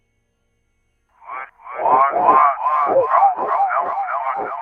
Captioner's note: static hissing